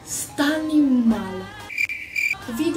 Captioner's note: cricket sound